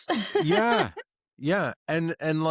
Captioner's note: laughs